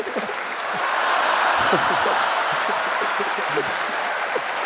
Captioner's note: cheers and laughter